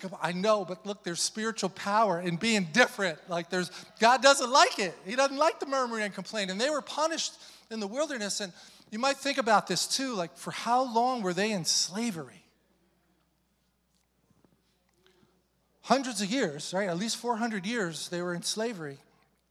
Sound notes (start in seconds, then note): none